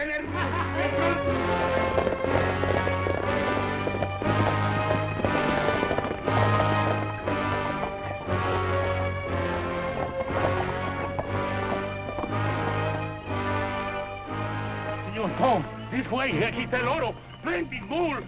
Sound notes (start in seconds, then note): 0.2 laughs; 16.4 non-english speech